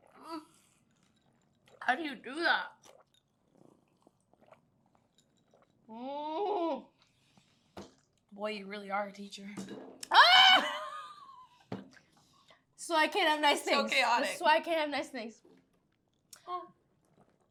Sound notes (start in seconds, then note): 9.6 cup thuds; 10.2 Zoey laughs